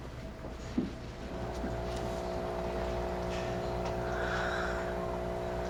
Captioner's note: even Breathing